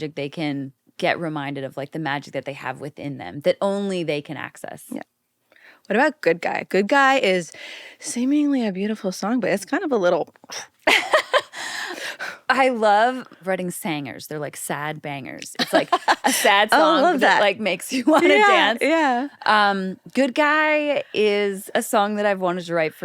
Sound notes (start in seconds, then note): 10.8 laughs; 15.6 laughs